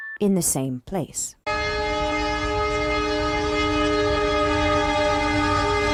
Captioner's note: train horn passing